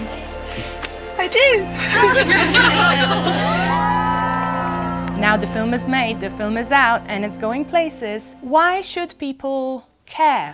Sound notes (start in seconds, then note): 1.7 cheering